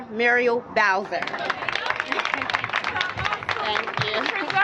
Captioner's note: applause